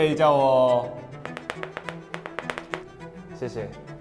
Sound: tap tap tap tap tap

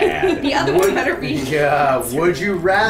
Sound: laughing

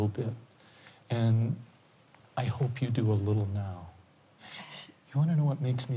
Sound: inhales shakily

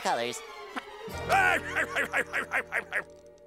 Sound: laughing

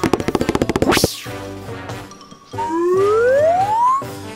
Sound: fast footsteps

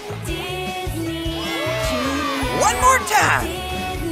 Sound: cheering

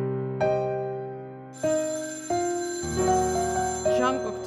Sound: phone rings

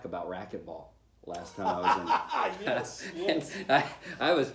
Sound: laughter

